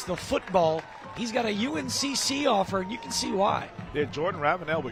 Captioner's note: applause